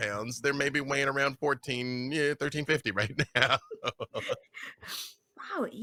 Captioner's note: laughs